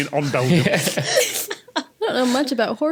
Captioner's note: guests snickering